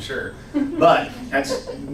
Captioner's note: laughs